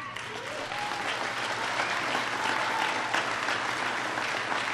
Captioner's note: applause